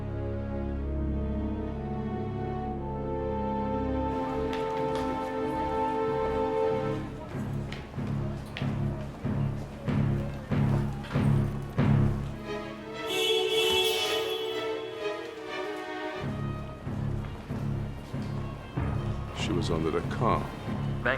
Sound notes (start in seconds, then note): 0.3 soft orchestral music; 7.8 tense orchestral music; 12.4 horn honking